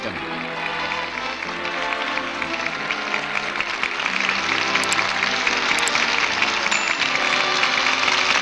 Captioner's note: applause